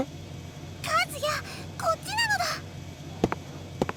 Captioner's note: hushed shouting